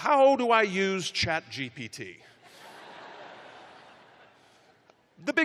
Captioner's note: laughter